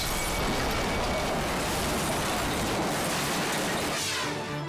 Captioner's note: cars crashing